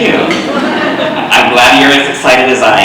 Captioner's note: audience laughing